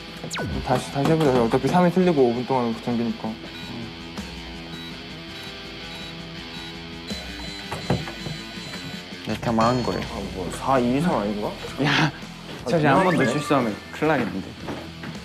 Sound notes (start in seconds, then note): 7.1 beep beep